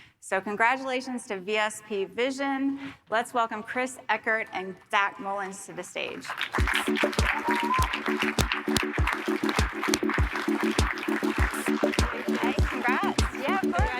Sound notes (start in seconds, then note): 6.1 audience applauding; 6.6 soft music